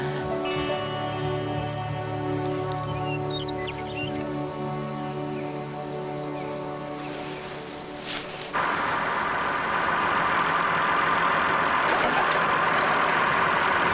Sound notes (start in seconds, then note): 3.7 chirping of birds; 9.2 roaring of engine